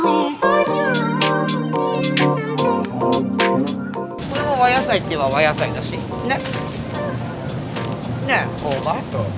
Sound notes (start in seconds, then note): 4.5 speaking Japanese